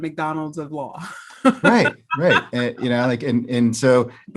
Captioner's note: laughs